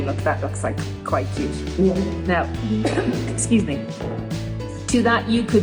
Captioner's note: coughs